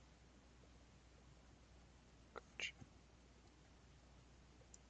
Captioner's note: mouse clicking